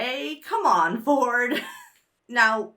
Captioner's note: laughs